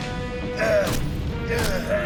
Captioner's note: fleshy thuds